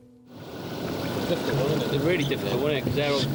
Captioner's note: boat engine revving